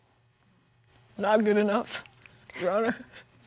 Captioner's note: weaping tone